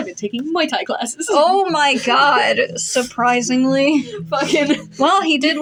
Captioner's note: giggle